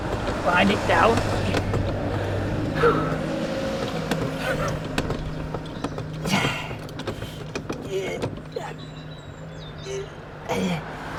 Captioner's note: breathes heavily